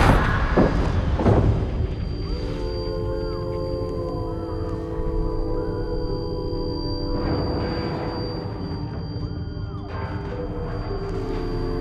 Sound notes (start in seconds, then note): 2.5 eerie, solemn music; 7.3 metal clanging